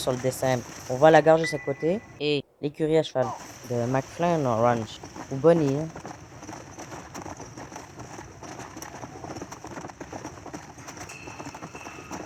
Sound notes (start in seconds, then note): 5.1 sounds of a galloping horse; 11.1 screepy music